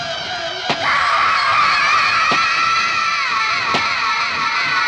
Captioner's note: screaming